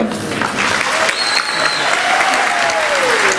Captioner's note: applause